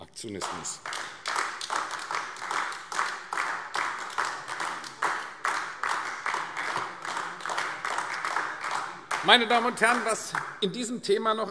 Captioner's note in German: Beifall AfD